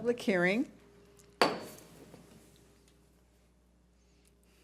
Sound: gavel bangs

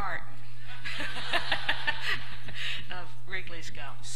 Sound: laughter

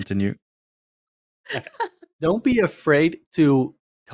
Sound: laughs

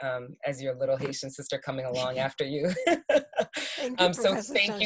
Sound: laughs

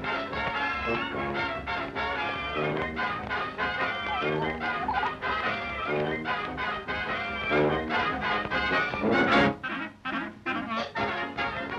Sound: laughing

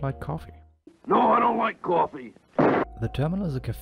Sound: gunshot

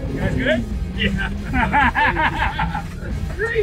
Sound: laughter

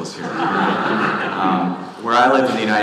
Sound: audience laughing

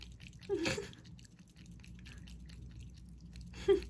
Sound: laugh

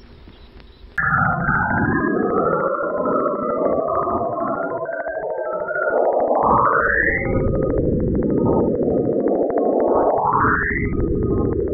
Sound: unknown rising tones

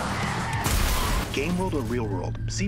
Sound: driving/Road Noise; crash

